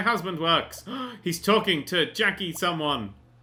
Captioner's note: gasp